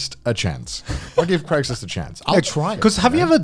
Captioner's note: laughs